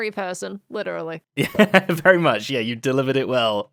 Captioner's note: laughs